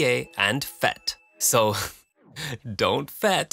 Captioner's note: chuckle